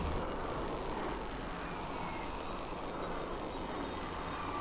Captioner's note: engine roaring